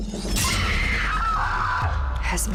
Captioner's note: screams